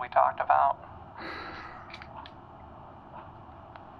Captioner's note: Ludlow exhales